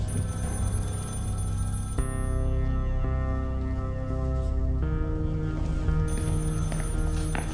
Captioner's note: phone ringing; tense music